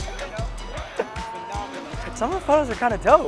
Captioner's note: laughing; murmurs